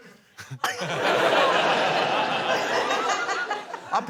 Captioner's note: laughter